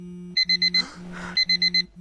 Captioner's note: sighs